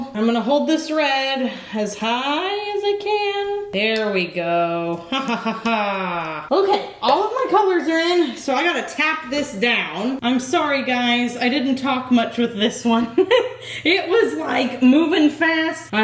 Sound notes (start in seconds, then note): 13.0 laughs